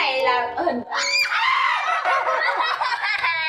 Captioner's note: screaming